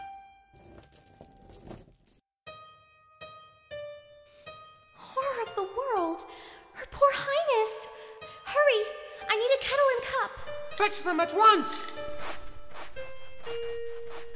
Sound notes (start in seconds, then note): none